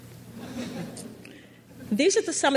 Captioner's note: crowd laughs